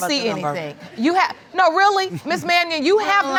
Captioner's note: audience chuckles